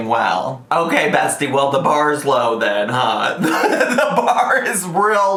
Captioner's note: laughs